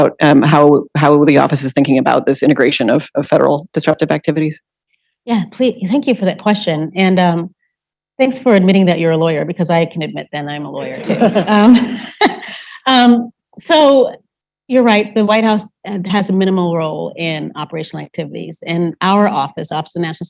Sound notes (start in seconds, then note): 10.8 laughing